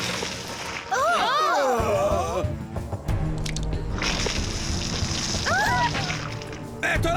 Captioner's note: gasps